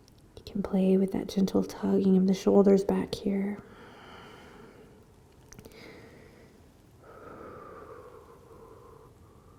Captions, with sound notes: You can play with that gentle tugging of the shoulders back here. (breathing)